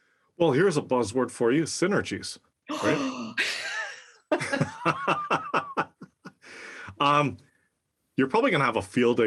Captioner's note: laugh